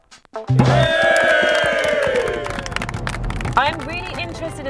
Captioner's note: cheering and applause